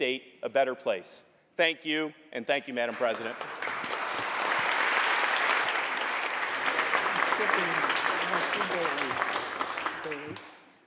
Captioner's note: applause